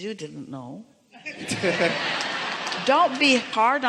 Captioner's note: audience laughing